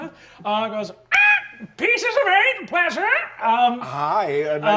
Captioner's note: squawks